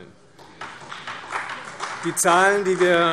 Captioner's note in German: Beifall Freie Demokraten, BÜNDNIS 90/DIE GRÜNEN und DIE LINKE